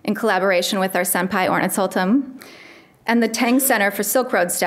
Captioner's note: speaks a foreign language